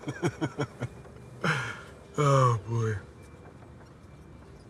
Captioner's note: he laughs; he sighs